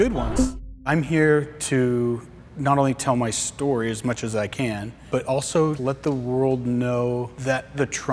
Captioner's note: voice-over